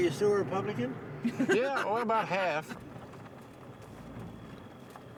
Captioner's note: laughter